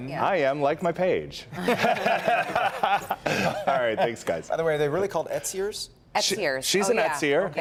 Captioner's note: laughter